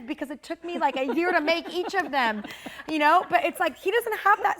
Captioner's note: all chuckling